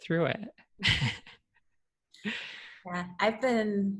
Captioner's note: chuckles